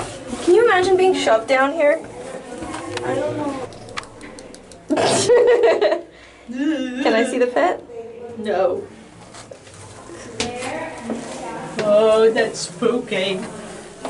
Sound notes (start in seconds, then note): 3.7 mimicking chattering teeth; 4.9 laughter